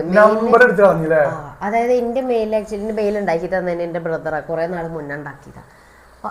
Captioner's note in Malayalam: none